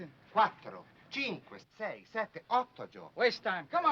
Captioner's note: speaking foreign language